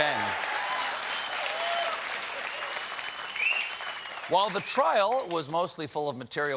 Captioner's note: applause